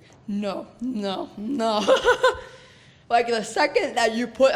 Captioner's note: laughs